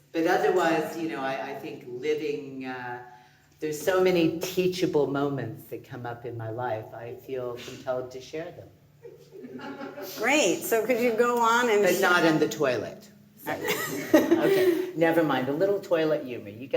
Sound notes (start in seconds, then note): 9.4 audience laughing